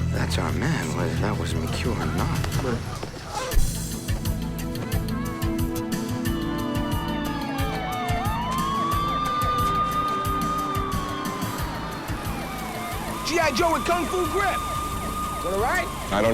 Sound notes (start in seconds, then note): 3.8 slow music; 6.9 sirens wailing